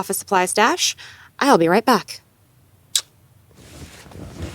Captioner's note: kiss